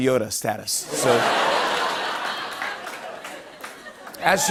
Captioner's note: laughter